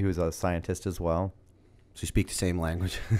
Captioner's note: chuckle